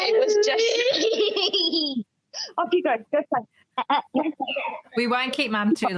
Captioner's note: child laughing